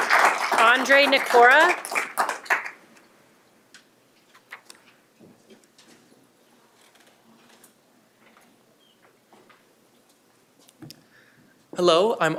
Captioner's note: applause